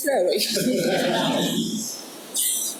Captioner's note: audience laughs